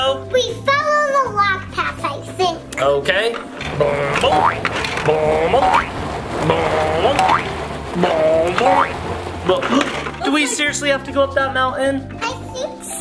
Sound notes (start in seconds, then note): 3.9 car bouncing; 4.2 boing; 5.8 boing; 9.3 playful music